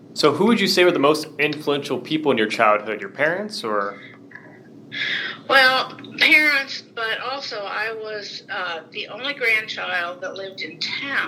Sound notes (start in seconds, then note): none